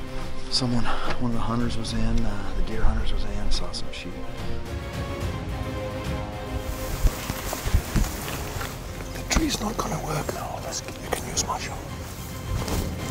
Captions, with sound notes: - Someone, one of the hunters was in the deer hunters was in saw some sheep. (grass rustles) - The tree's not gonna work now. You can use my shoulder.